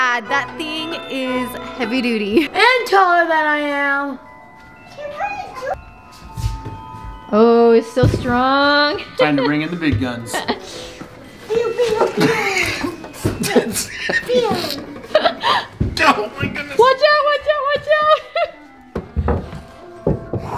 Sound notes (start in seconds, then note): 11.2 kids chattering; 12.9 grunts; 14.7 laughs; 17.9 laughs